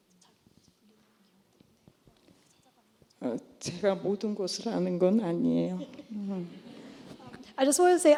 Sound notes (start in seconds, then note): 3.2 speaking korean; 5.1 laughter